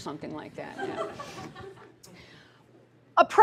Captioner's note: laughter